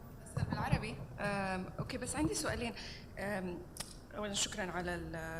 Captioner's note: speaking foreign language